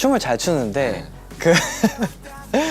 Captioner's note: haha